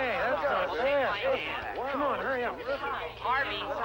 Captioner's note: balls chattering softly